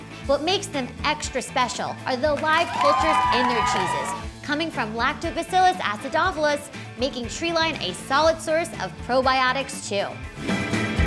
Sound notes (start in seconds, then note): 2.3 cheering